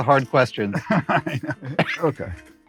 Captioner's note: laughs